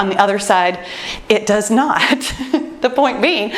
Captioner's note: laughs